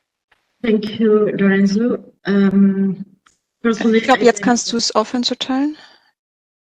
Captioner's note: foreign language 01:05:36-01:05:38